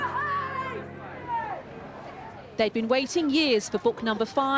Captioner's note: people cheering